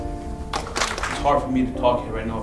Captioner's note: applauding